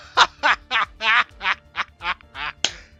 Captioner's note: laughter; some Clapping